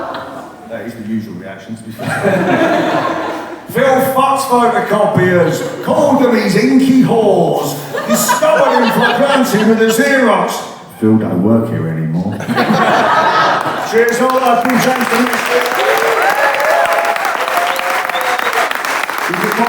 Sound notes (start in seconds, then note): 0.0 laughter & disgust; 1.9 laughter; 1.9 laughs; 13.1 laughter; 16.5 clapping